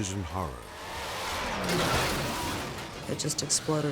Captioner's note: car crashing